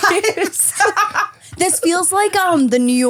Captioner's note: guests laughing